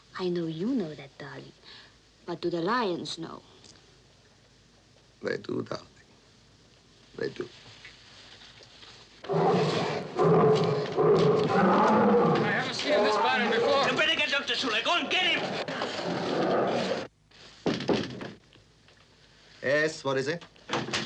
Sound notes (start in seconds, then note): 9.2 gorilla roaring; 17.7 knocking on door